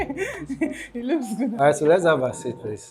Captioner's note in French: rires